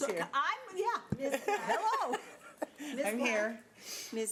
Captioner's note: laughs